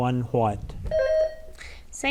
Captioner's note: bell rings